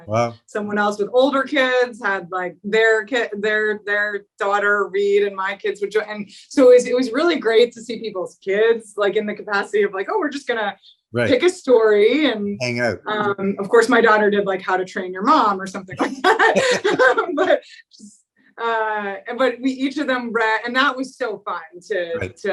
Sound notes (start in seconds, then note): 15.9 both laugh